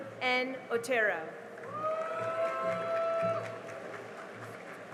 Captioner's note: cheering and applause